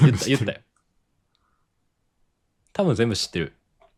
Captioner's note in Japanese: 笑い